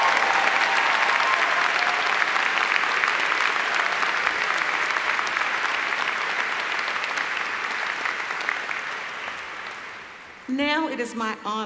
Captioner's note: applause